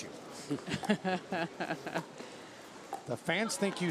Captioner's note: laughs